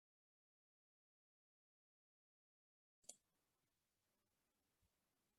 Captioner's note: silence